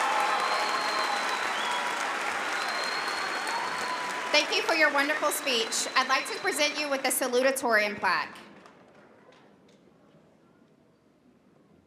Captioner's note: applause